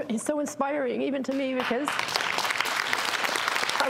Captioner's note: applause